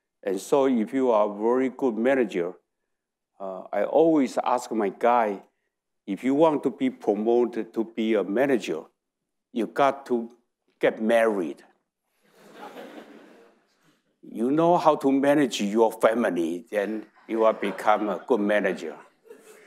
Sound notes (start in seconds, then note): 12.3 audience laughing; 19.5 audience chuckling